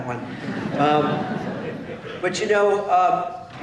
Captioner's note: laughter